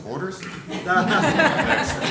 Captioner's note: laughter